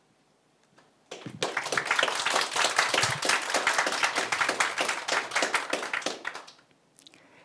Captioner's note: audience applauds